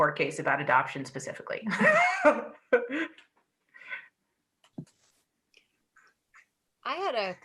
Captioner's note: laughter